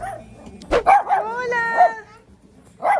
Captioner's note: dog barking